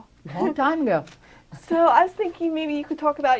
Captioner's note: laughter